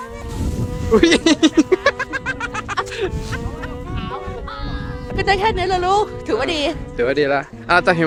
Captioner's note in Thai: เสียงหัวเราะ